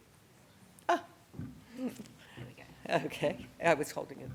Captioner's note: chuckles